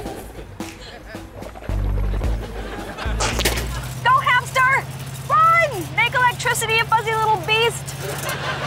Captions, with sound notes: [swishing] [spitting] Go, hamster, make electricity you fuzzy little beast.